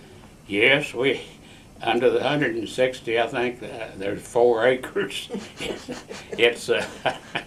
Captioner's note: laughter